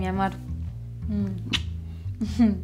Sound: kiss sound

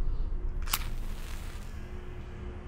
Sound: match lights

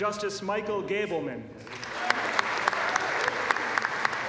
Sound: applause

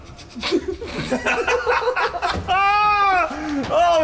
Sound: laughing

